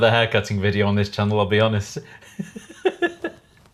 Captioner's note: laughing